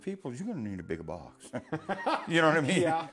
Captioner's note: laughter